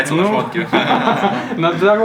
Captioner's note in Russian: смех